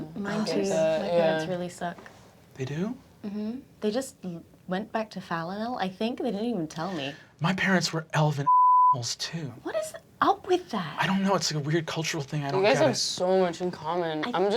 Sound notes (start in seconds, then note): 8.4 beeping